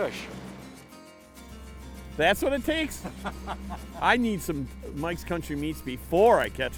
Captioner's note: laughing